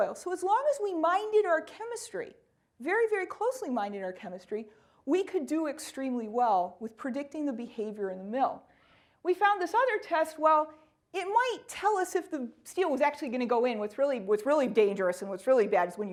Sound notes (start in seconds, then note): none